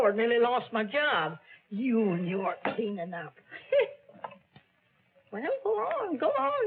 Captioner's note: laughs